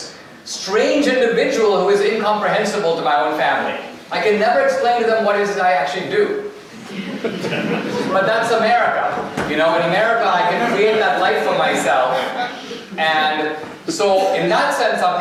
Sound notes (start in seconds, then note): 6.7 audience laughter